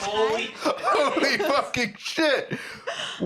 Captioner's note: laughing